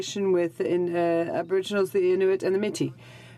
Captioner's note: speaking in french